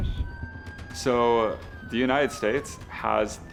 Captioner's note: police sirens